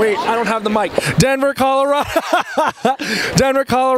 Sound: laughs

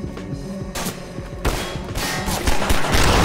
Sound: bullet clanging; barrel exploding

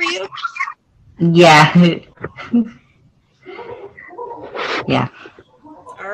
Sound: chuckles

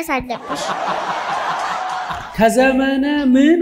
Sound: laughter

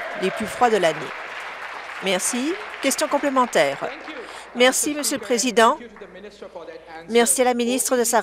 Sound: applause

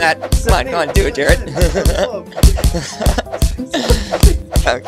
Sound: punches

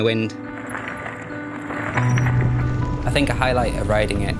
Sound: bikes rustling

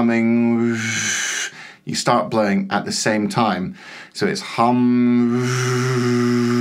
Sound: blows

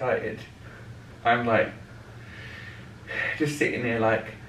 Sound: sighs

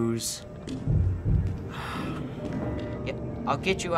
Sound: disgusted sigh

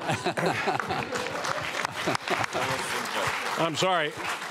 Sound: audience applauding

